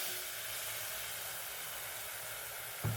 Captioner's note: gentle sizzle